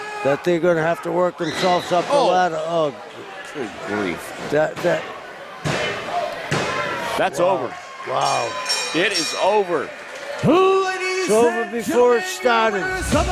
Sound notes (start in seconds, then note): 5.5 referee slaps mat; 8.6 match bell rings